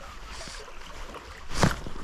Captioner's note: water sounds